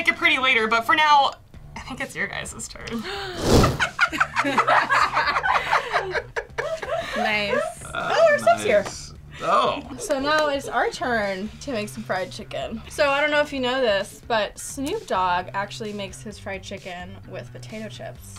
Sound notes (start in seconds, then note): 3.6 both laugh